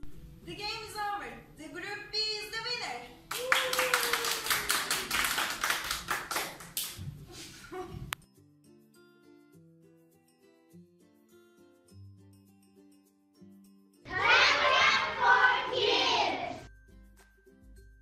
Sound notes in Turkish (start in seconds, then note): 3.2 alkış